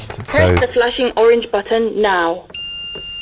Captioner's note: automated voice